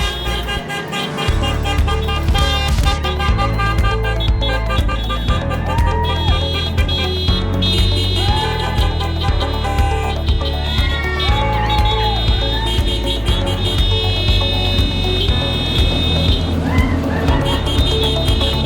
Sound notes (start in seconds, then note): 0.1 horns honking; 4.7 crowd cheering